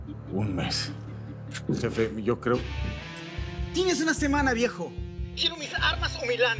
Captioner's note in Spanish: ruido al cargar un arma